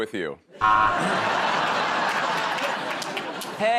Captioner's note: laughter